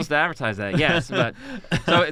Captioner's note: chuckles